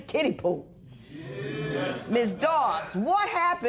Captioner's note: spectators murmur